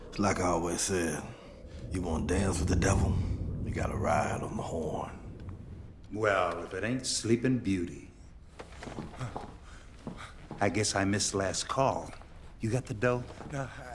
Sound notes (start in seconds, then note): 9.1 gasps